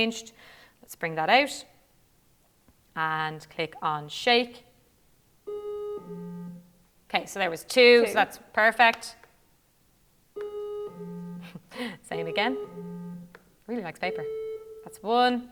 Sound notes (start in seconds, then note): 5.5 two tones sound; 10.4 two tones sound; 12.1 tone sounds